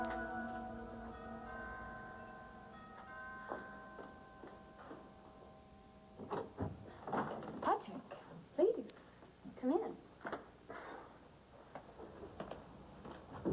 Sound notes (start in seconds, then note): 2.7 doorbell rings